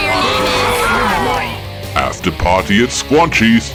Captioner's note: booing